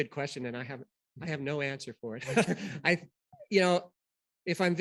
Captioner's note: laughter